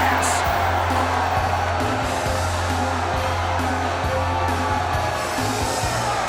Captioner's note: energetic rock music; crowd cheers